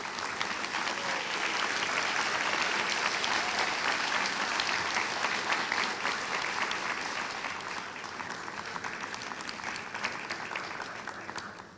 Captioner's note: applause